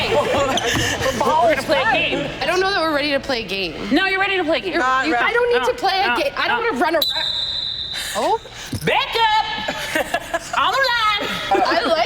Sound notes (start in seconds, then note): 6.9 whistle blows